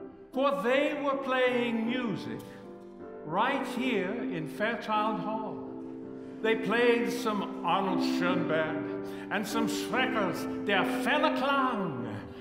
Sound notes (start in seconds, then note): none